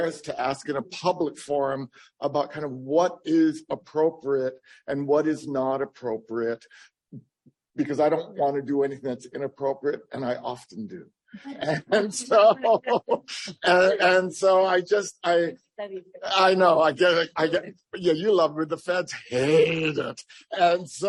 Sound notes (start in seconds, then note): 11.4 laughs; 11.4 laughter